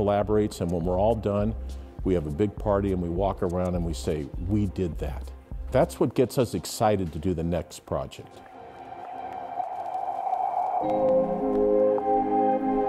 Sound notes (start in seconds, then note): 8.3 gentle music; 9.0 air whooshing